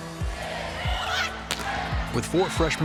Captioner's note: team talking